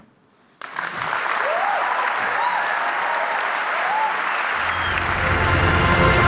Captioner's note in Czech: Potlesk